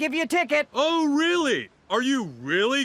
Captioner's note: sarcastically